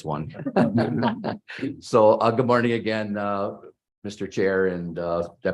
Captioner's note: laughter